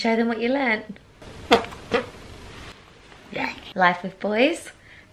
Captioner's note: fart noises